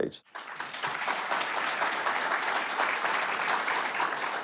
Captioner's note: audience applauding